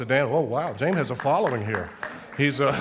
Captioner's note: audience applauding; laughing